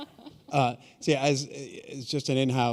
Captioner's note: chuckle